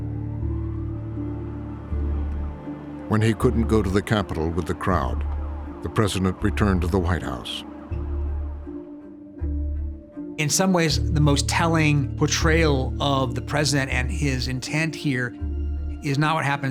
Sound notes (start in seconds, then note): 1.1 siren blaring